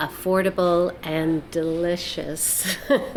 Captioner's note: laughs